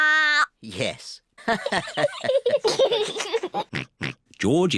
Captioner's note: all laugh